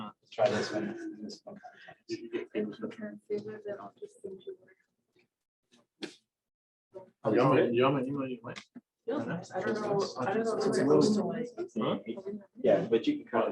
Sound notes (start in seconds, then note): 3.5 chatter